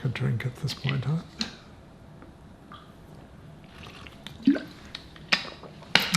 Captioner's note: drinking